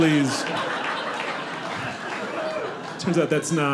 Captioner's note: audience laughing